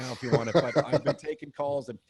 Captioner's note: laughs